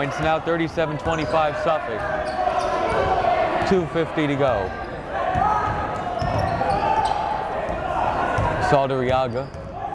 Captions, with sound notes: Moultrie hits it, he has four points now, 37, 25 Suffolk. (yelling) 2:50 to go. (yelling) Saldarriaga.